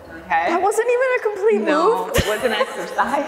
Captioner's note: laughing